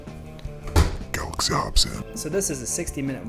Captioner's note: deep voice